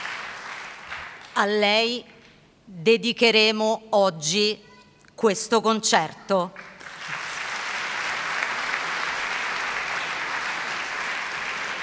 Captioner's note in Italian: Applauso